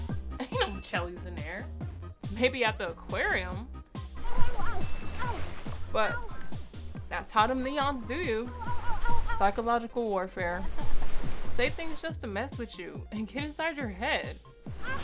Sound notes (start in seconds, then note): 4.2 Allison screaming; 14.8 Allison screaming